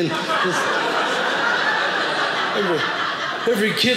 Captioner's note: audience laughing